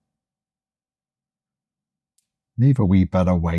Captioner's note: silence